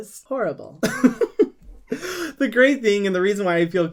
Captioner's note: laughs